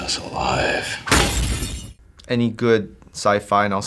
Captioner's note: smashing